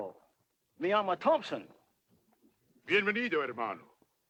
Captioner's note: speaks Spanish; Victorio speaks Spanish